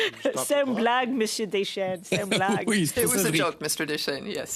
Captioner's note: laughter